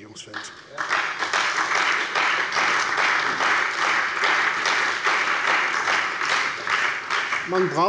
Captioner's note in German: Beifall bei der CDU und dem BÜNDNIS 90/DIE GRÜNEN